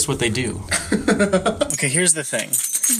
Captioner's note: laughs